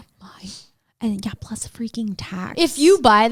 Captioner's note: none